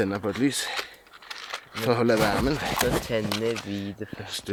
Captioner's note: laughing